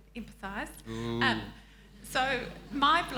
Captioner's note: audience chuckling